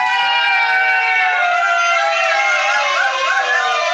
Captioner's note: team cheering